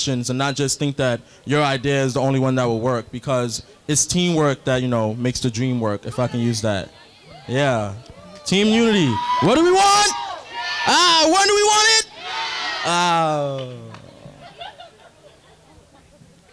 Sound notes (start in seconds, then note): 10.6 crowd